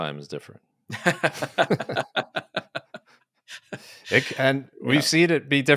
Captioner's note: both laugh